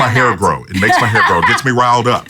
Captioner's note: laughs